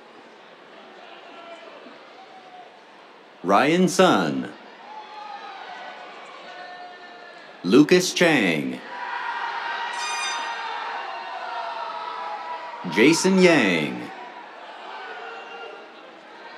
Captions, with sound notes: [CHEERS] Ryan Sun. [CHEERS] Lukas Chang. [CHEERS, AIR HORN] Jason Yang. [CHEERS]